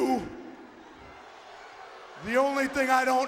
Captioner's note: audience booing